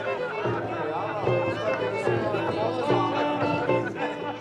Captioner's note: laughing